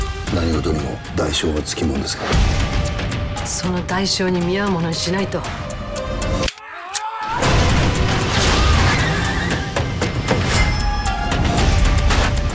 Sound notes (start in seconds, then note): 0.1 speaking in japanese; 6.6 screaming